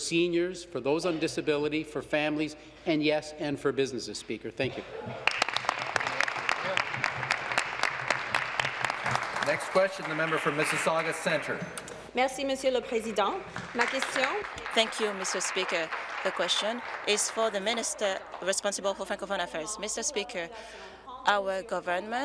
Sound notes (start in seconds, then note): 9.0 applause; 16.2 speaking in French